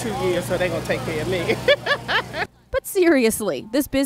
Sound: laughter

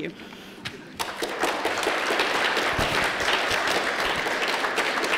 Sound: applause

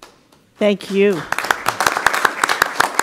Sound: applause

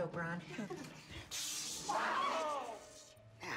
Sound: screams

